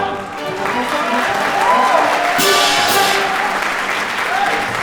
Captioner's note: applause